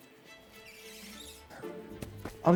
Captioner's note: squeaking